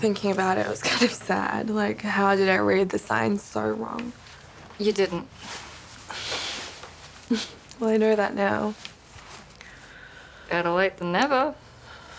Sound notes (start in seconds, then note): 7.3 chuckles